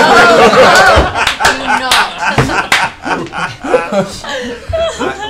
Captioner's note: laughter